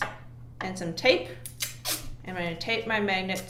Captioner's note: tape Ripping